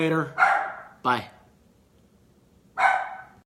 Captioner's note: dog barking